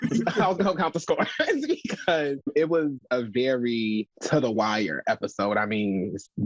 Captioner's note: laughs